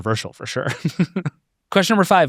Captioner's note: laughs